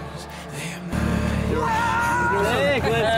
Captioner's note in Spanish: un hombre grita